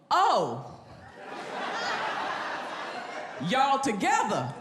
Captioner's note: audience laughs